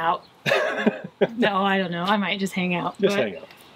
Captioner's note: laughs